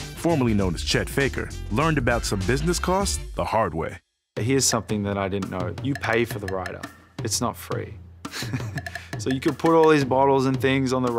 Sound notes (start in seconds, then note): 8.2 chuckles